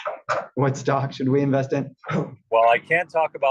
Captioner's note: laugh